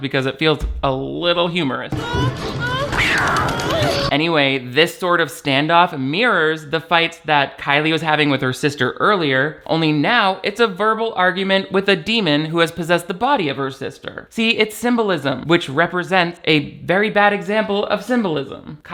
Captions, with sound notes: Because it feels a little humorous. (wailing) (doll quacking) Anyway, this sort of standoff mirrors the fights that Kilee was having with her sister earlier. Only now, it's a verbal argument with a demon who has possessed the body of her sister. See, it's symbolism, which represents a very bad example of symbolism.